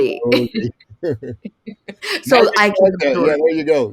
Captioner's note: laughs